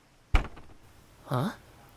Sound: thump

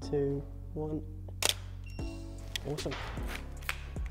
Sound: camera shutter clicks

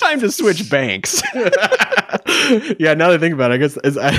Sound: laughing

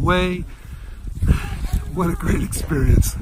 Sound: sighs

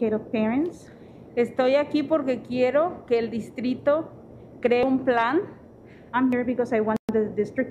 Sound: speaking Spanish

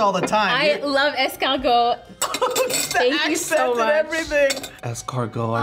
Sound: laughs

